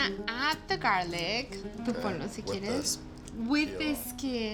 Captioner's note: speaks Spanish